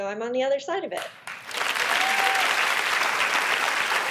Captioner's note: applause